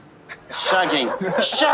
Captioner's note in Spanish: risas